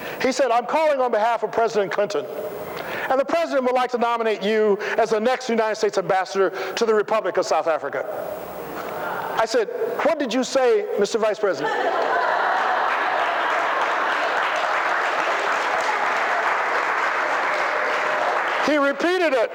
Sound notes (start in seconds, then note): 11.9 applause